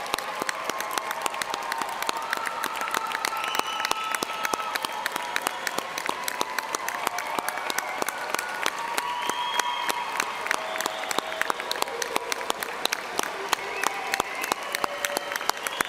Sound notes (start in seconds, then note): 6.0 cheers and Applause